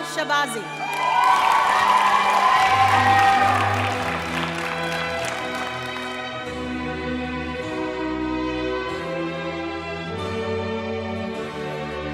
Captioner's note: applause and music